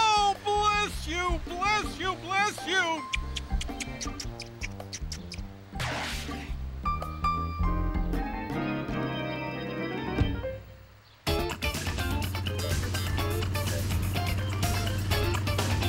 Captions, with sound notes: Oh, bless you, bless you, bless you! (KISSING)